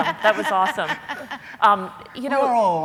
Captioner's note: laughing